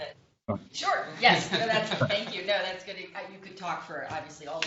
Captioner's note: laughter